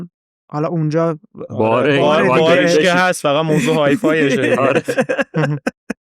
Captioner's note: laughs